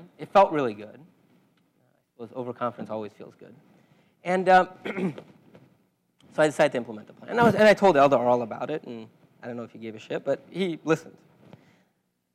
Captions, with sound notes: It felt really good. Of course, overconfidence always feels good. And [COUGH]. So I decided to implement the plan. And now, and I told Eldar all about it. And I don't know if he gave a shit, but he listened.